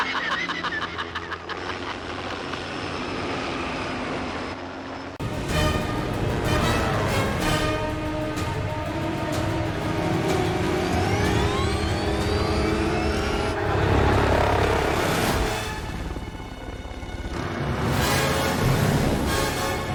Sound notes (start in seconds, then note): 2.6 helicopter noise; 10.4 high-pitched whirring, becoming more intense; 13.5 crowd murmuring; 15.0 helicopter swooping noise